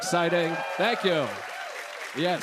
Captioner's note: cheers and applause